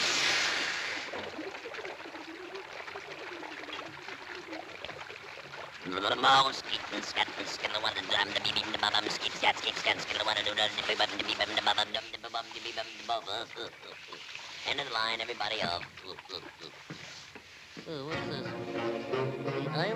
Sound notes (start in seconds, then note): 0.2 water sloshing; 6.4 Popeye vocalizing; 18.2 soft tense music